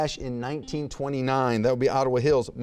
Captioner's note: buzzer beeps